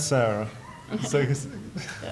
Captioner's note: laughs